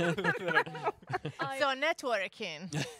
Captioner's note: laughing